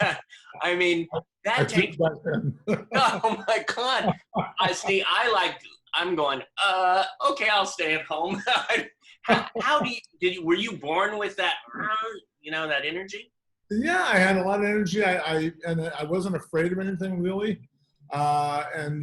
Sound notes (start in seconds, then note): 1.5 laughting; 8.2 laughter